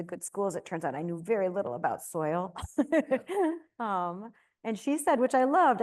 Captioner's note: laughs